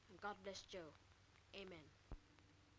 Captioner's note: none